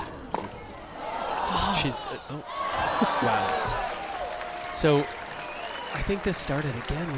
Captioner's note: crowd applauds